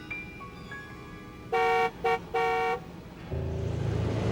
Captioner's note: car honks